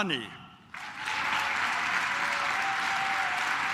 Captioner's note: claps